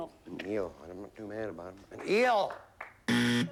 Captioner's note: buzzer